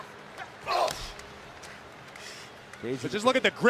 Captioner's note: Strowman grunts